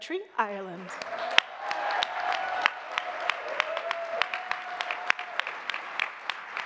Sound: audience clapping and cheering

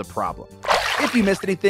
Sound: water splashing

